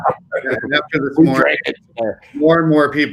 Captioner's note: laughing